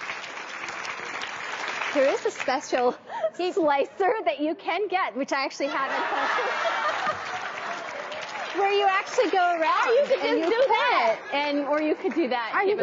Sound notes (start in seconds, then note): 0.0 audience applauding; 5.6 laughing; 5.6 audience laughing drowns out speaker; 7.9 audience applauding